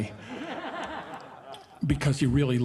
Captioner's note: audience laughing